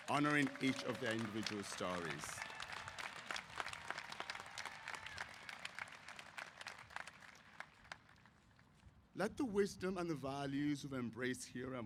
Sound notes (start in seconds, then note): 3.0 applause